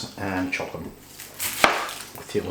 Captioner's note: chop!